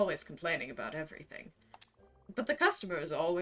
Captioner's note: none